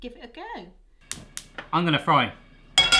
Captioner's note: stove lighting